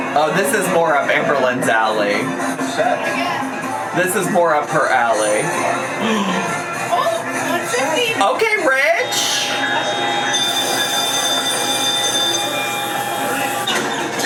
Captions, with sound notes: - Oh, this is more of Amberlynn's alley. This is more of her alley. - Oh, what's this mean? - Okay, Rich. (bells dinging)